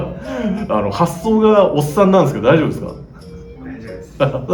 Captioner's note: laughs; laughs